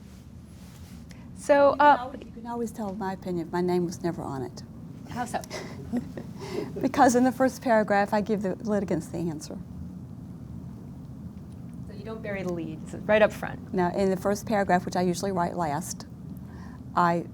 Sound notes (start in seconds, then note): 5.4 laughs